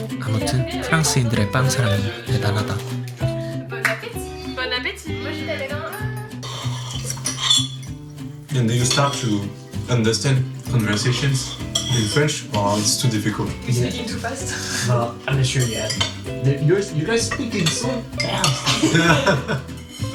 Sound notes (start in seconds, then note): 7.5 sound of forks and knives; 18.2 laughs